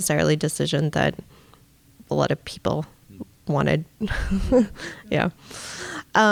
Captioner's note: chuckles